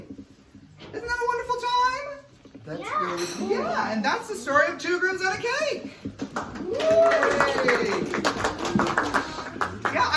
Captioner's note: clapping